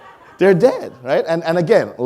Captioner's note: audience laughing